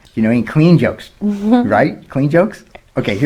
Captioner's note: laughs